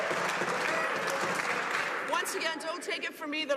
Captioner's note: some Applause